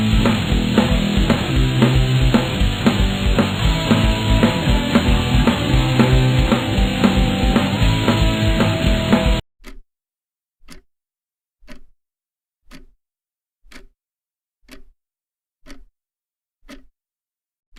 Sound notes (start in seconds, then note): 10.0 clock ticking